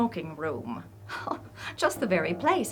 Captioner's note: chuckles